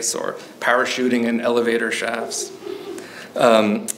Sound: audience member chuckles

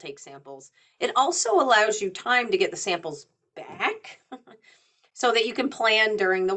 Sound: chuckles

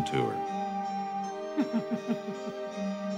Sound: laughter

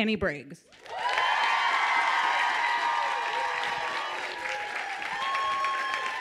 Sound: audience cheers and claps

